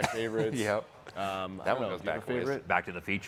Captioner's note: chuckles